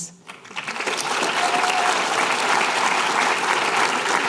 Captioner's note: applause